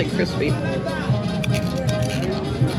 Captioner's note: crunch